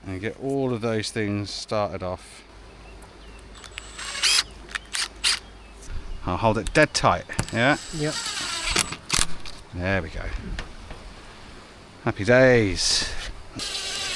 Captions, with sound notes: and get all of those things started off. (drill whirring) I'll hold it dead tight, yeah? Yep. There we go. Happy days.